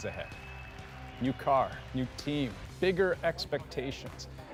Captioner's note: applause